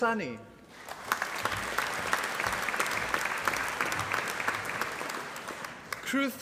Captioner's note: applause